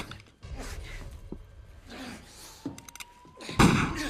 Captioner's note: police sirens wailing; gunshot blares